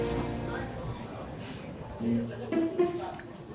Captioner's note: people chattering; gentle playful music